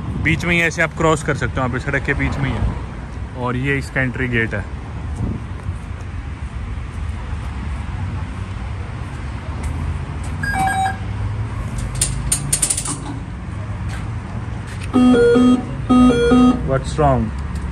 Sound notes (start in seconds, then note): 10.4 machine Beeps; 14.9 error Sound